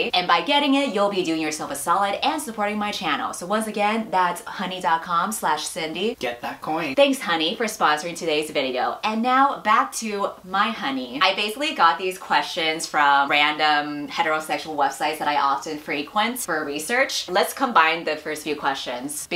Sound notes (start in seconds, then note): none